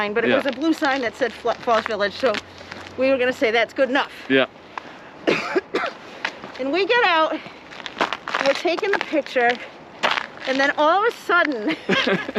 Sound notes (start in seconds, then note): 5.2 coughs